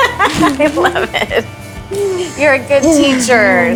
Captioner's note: laughs